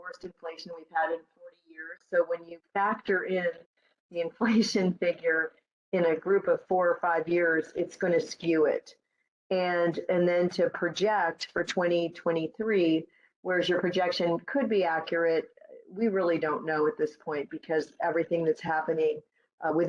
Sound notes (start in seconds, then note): none